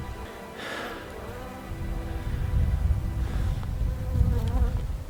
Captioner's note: fly buzzing